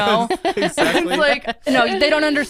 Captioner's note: laughs